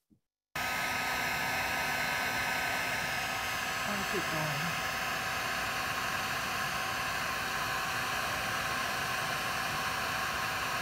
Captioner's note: sound of hot air blower